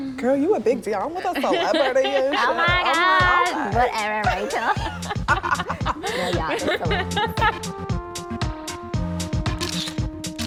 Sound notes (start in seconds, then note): 5.6 laughing; 7.8 upbeat music